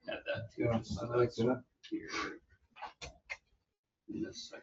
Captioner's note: overlapping chatter